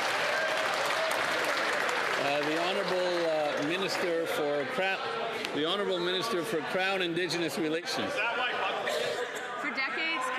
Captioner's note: some Applause